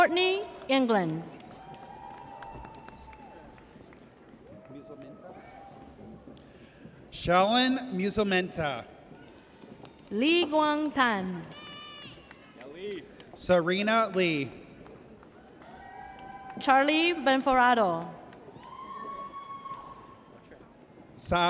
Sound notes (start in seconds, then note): 1.4 audience cheers; 12.0 audience cheers; 15.6 audience cheers; 18.5 audience cheers